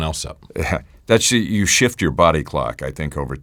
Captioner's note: chuckles